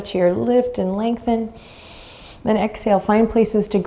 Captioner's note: inhaling deeply